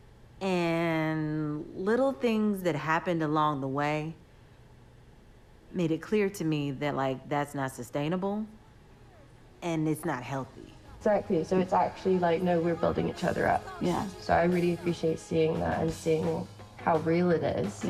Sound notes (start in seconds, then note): none